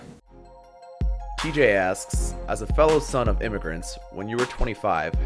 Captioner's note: voiceover